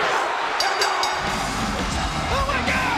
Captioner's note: bell rings